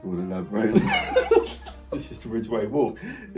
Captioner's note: both laughing